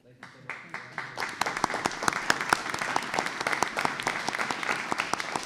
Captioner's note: applause